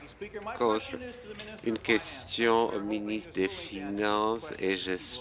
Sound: applause

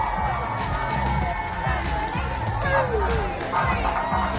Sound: cheerleaders counting

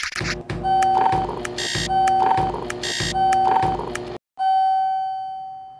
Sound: record spins backward; low hum, key presses, beeps in rhythm

